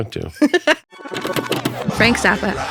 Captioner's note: laughs